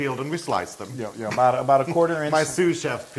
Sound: laugh

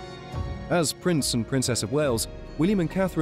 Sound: bright music; voiceover

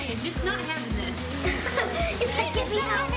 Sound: laughs

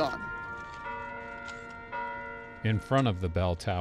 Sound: bell ringing

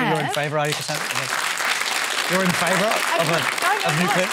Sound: applause

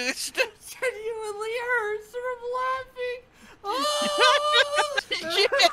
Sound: wails

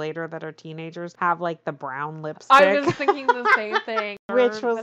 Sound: laughs

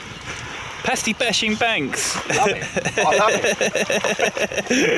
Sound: laughs slightly

